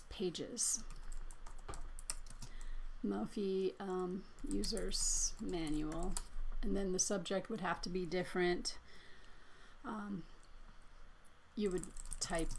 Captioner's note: typing